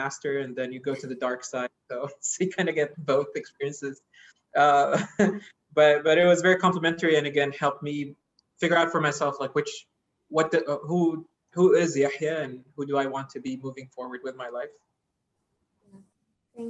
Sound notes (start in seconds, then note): 4.6 laugh